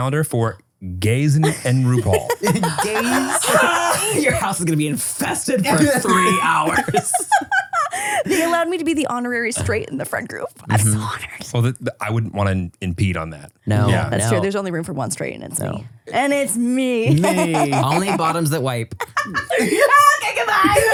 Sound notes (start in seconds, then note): 1.4 laughs; 7.1 laughs; 17.0 laughing